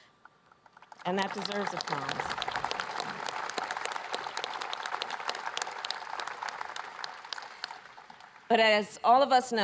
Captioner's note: applause